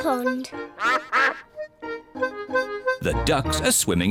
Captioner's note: duck quacks